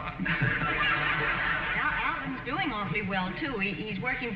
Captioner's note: audience laughing